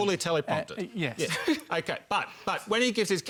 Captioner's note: laughs